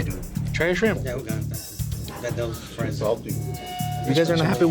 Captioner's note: recon speaking faintly